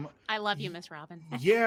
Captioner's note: laughing